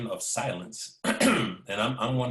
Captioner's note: clears throat